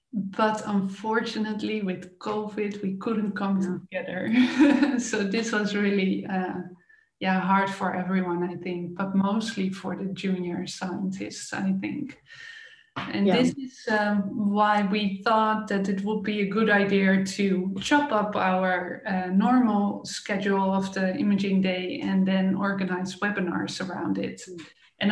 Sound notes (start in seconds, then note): 4.3 chuckles